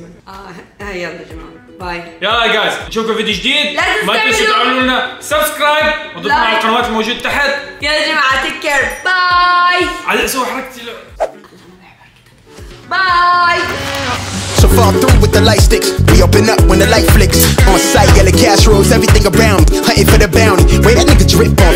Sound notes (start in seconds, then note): 11.3 whispers; 17.1 outro music plays